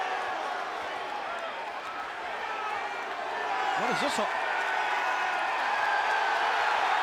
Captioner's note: applause